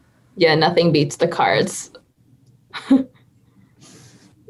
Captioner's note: chuckling